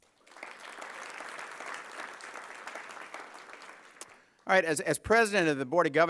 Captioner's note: applause